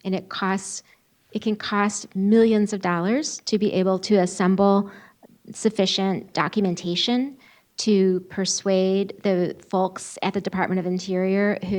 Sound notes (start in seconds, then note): none